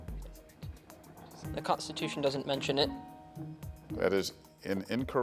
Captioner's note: teammates whispering